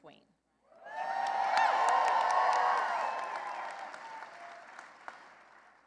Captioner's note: cheering and applause